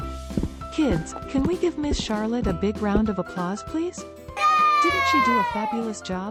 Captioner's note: kids cheering